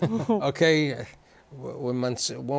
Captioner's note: laughter